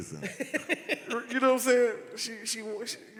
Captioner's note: laughed